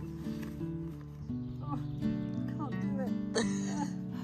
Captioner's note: laughing